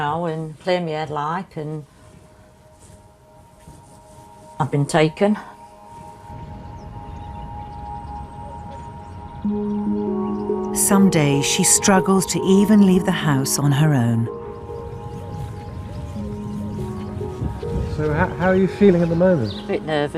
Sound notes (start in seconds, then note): 11.0 voiceover; 18.2 voiceover